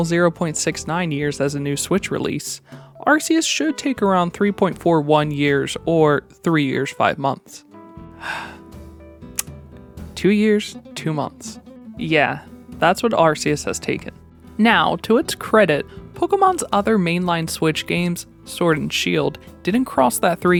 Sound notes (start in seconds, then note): 9.3 tongue click